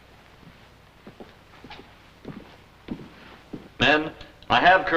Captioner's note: footsteps